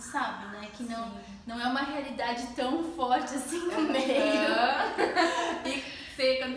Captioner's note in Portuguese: risos